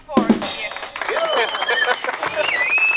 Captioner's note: drum roll; applause